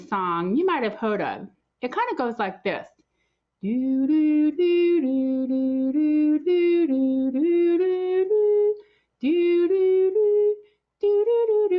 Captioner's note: humming